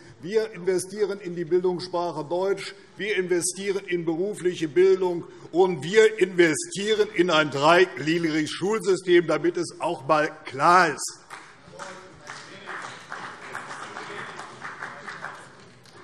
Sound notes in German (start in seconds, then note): 11.2 Vereinzelter Beifall CDU und BÜNDNIS 90/DIE GRÜNEN